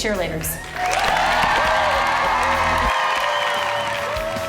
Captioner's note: group cheers; country music